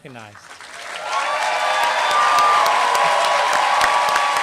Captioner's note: applause